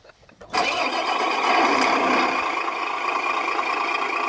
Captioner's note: truck engine revs